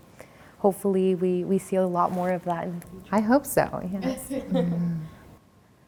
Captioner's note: laughs